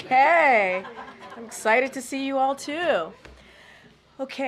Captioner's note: laughter